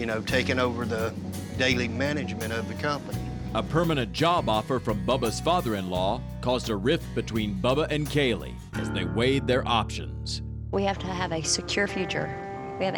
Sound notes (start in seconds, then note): none